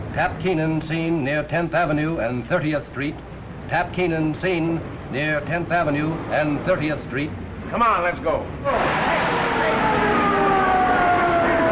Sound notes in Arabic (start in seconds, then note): 8.6 صافرات الإنذار